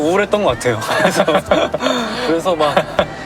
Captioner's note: hahaha